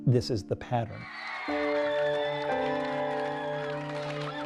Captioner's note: cheers and applause